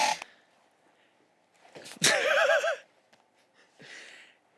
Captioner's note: laughing